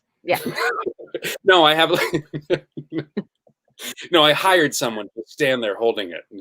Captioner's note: Santino laughs; laughs